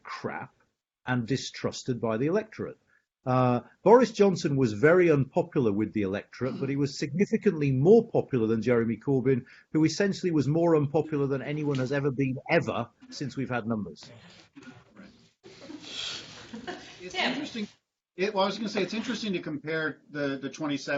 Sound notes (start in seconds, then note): 12.9 laughter